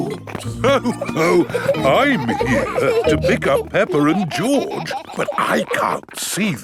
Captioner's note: laughs